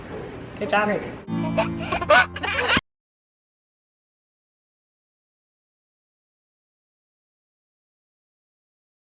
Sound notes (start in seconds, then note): 1.3 child laughs